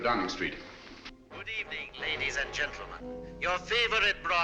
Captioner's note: radio broadcast